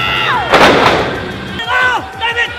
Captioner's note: woman cheering and shouting; thudding sound